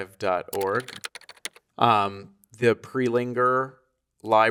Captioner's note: keys clacking